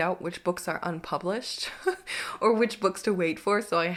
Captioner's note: chuckles